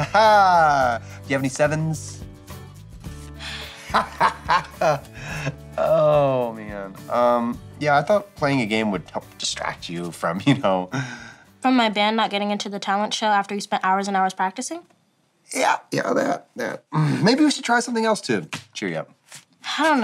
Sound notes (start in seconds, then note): 0.0 chuckles; 2.9 girl sighs; 3.6 chuckles